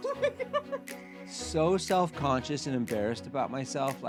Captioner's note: laughing